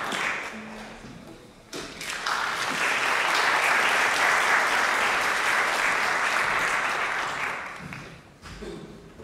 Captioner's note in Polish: oklaski